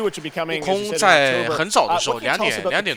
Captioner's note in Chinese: 鼓掌